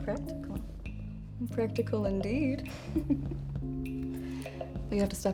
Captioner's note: laughs